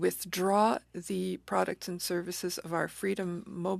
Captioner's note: speaking French